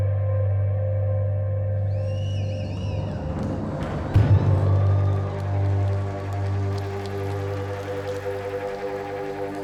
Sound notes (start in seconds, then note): 1.8 whistling from crowd; 5.2 cheers and applause